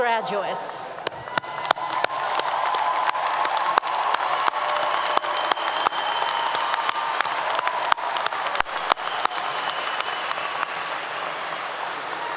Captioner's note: applause 👏 👏